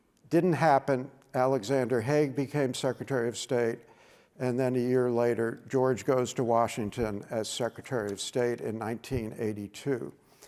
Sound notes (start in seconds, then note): none